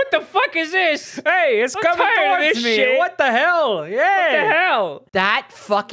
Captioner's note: goofy dude voice; goofy New Yorker dude voice; goofy dude voice